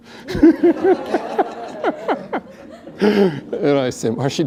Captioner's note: laughter